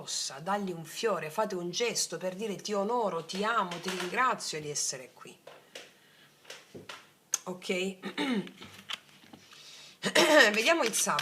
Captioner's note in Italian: schiarire la voce